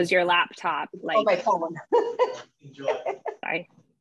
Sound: laughs

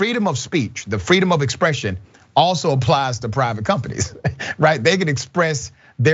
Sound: laugh

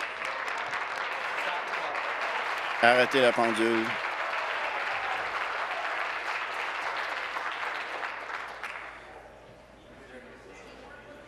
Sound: applause

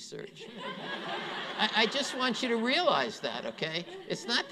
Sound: laughter

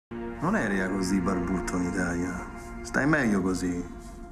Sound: speaking Italian

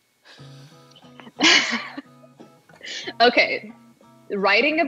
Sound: both laugh

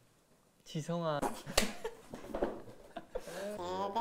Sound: laughing

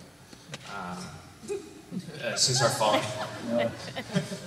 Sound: some laughter

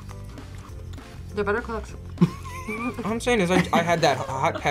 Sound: both laugh

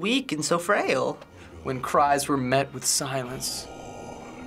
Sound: voice wavering

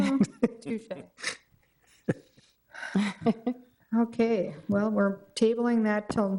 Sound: all chuckling

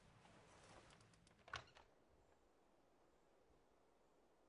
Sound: door opens

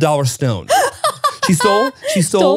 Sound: laughs

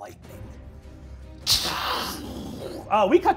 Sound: dramatic music; imitates crashing

